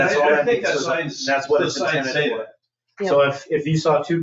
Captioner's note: people chattering